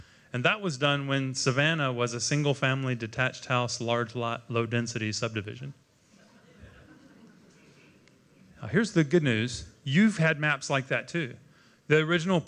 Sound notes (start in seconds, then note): 6.1 laughter